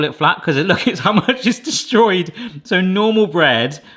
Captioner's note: laughs